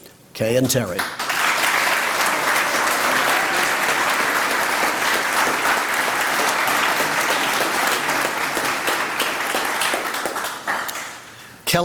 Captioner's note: applause